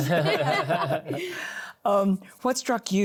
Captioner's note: laughter